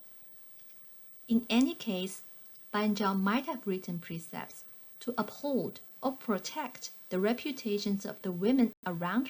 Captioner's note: click